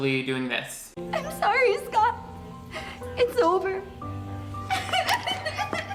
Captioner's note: sobs